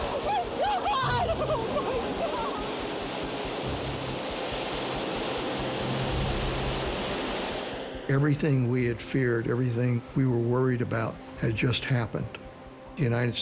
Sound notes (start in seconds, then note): 0.0 woman screaming; 0.1 crying